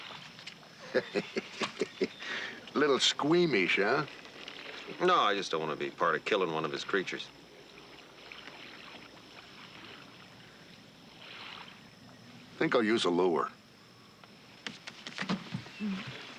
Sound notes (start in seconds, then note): 0.8 laughing